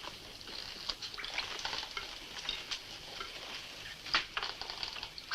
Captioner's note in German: Wasser tropft